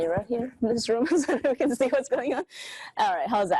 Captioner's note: laughs